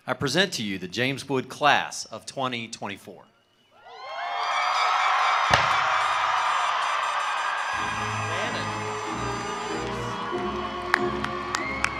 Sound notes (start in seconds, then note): 3.8 attendees cheering; 4.0 attendees applauding